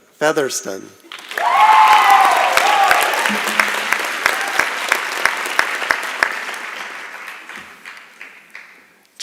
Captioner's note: applause and Cheering